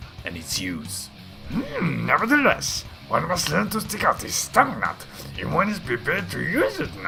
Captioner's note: Bad Yoda Impression